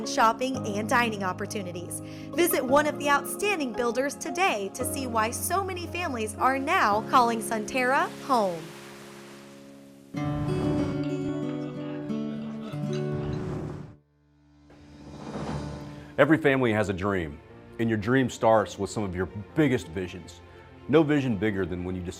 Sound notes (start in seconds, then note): 10.1 whoosh; 14.7 whoosh